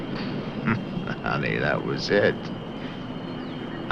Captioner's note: chuckles